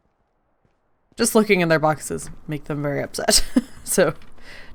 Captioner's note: laughs